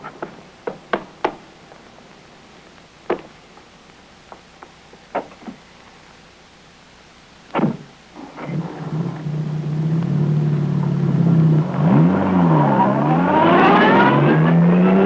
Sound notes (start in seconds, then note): 7.6 door bangs